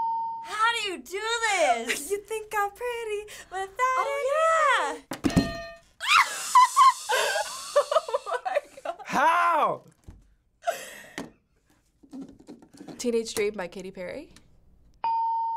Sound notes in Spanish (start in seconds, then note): 6.1 risas; 15.1 ding